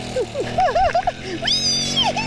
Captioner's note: laughing